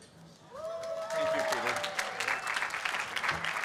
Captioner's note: applause